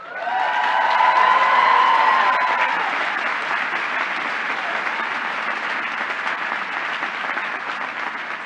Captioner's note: applause